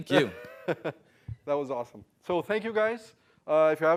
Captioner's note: laugh